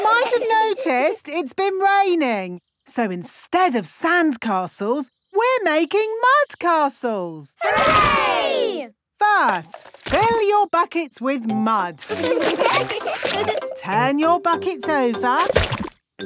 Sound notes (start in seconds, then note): 12.0 laughing